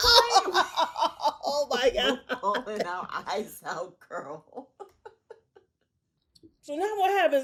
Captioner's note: laughter